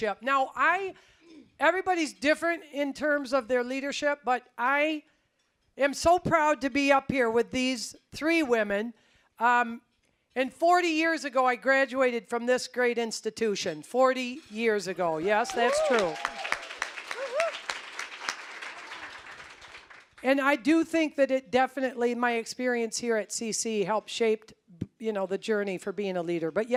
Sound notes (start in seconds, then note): 15.2 applause, cheering; 18.4 applause